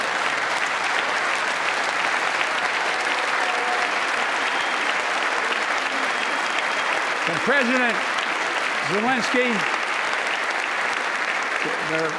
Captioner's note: applause